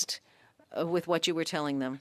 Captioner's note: speaking French